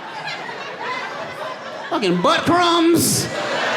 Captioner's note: audience laughing